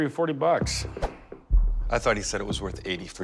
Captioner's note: swiping